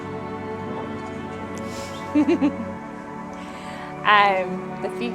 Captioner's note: laughs